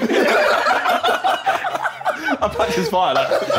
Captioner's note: group laughing